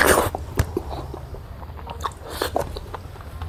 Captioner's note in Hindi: नाक से की जाने वाली आवाज़